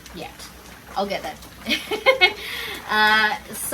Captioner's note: laughs